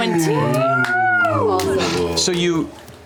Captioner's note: cheering